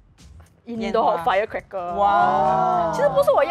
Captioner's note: wah